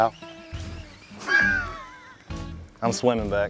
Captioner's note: laughter